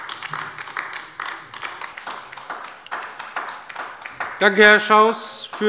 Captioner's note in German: Beifall bei der LINKEN